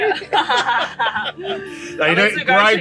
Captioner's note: both laugh